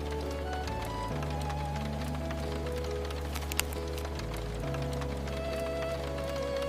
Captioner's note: rain drumming on the greenhouse glass